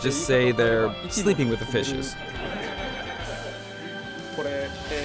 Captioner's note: laughter